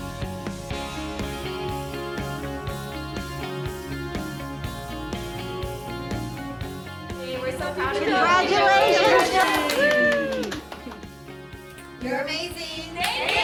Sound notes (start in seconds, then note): 10.7 participants clap; 11.5 bright music continues; 12.9 participants clap